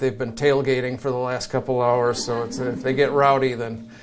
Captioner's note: audience chuckles